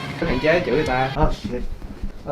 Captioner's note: speaking foreign language